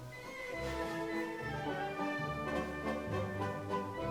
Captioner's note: fabric rustling